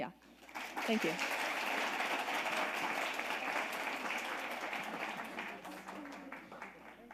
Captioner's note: audience applauding